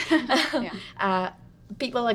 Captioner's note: women chuckle